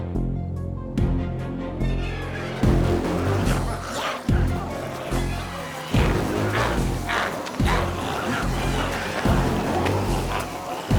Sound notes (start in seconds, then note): 4.1 glowzies growling; 7.2 intense music continues